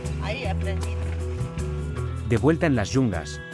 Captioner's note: speaking in foreign language